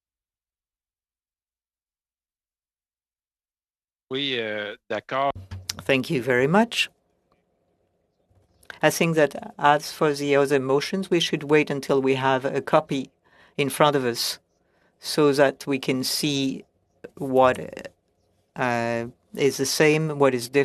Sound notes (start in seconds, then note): 10.0 speaking French